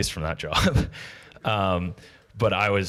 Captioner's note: laughs